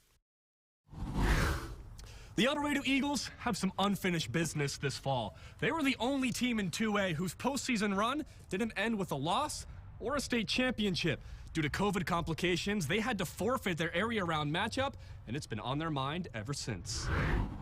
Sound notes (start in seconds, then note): 1.0 air whooshes; 17.0 air whooshes